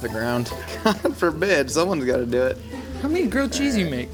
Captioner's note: chuckling